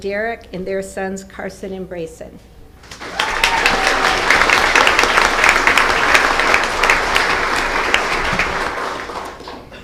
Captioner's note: applause